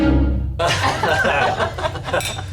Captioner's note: laughter